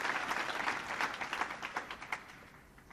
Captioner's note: applause